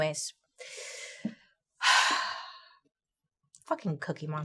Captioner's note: Bailey sighs